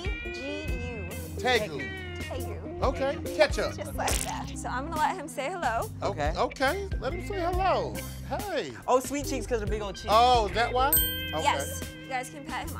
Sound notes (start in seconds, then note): 10.9 bell dings